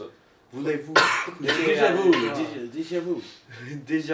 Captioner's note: coughing